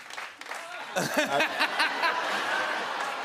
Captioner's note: laughs